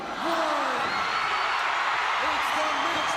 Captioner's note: crowd cheering